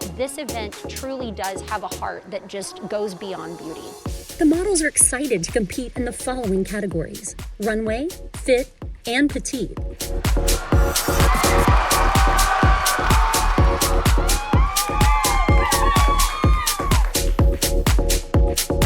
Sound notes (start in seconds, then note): 10.6 upbeat music; 12.5 crowd cheering